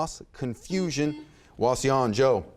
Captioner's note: buzzer beeps